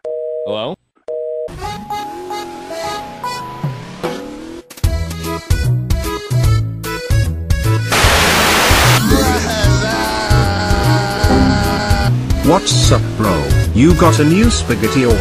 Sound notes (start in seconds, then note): 11.0 glitch